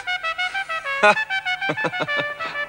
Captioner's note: laughing